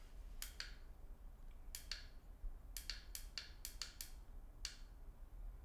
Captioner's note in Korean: 스위치 딸깍 거리는 소리